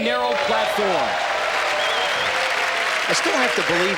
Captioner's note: cheering and applause